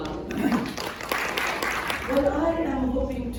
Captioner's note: applause